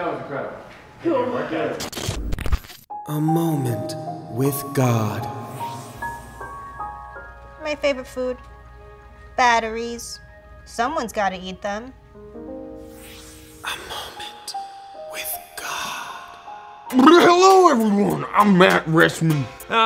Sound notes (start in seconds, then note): 15.0 whispering